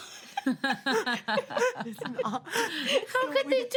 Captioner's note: women laugh